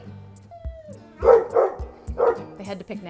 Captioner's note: dogs barking